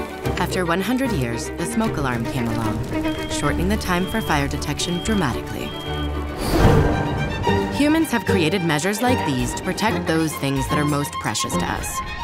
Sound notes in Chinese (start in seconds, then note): 5.4 火災警報器嗶嗶聲